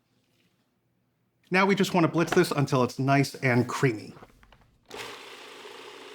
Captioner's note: processor whirring